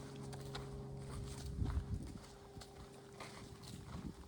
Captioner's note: footsteps and overhead light aircraft noise